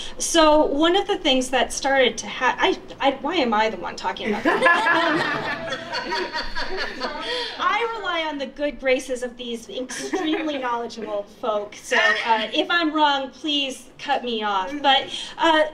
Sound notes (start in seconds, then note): 4.3 participants laughing